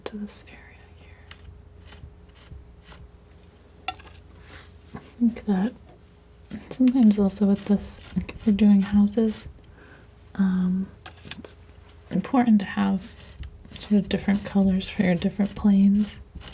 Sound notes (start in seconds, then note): 0.1 tapping